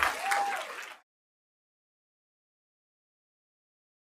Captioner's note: applause